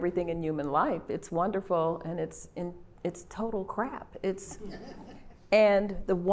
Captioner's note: laughter